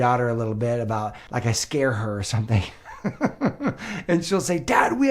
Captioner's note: laughs